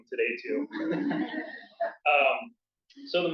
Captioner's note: laughter